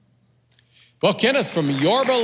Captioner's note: audience clapping